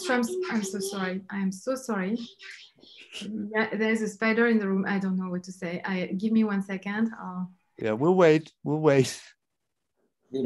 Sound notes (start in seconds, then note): 2.7 child whispers